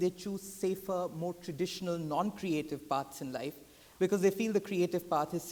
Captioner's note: none